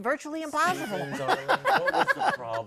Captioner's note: laughter